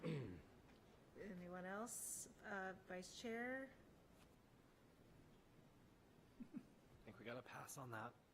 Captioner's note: clears throat